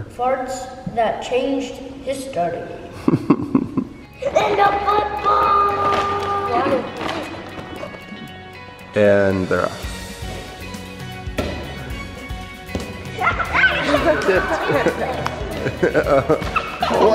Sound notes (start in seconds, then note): 2.9 dad chuckling; 12.2 lively music; 13.2 laughing